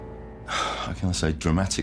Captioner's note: sighing